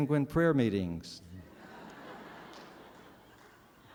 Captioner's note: laughter